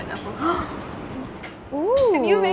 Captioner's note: gasps